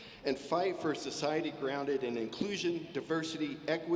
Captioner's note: none